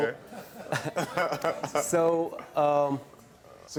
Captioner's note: Karamo and Ifeanyi laugh